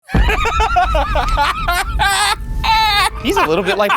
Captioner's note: laughing